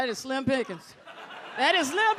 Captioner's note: audience laughs